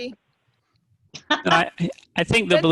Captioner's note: laughing